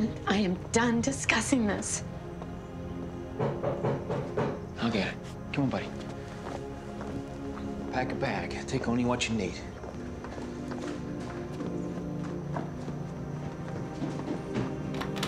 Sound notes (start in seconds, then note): 3.3 knocking